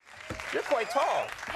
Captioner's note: crowd applauding